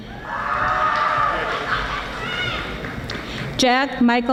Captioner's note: audience applauding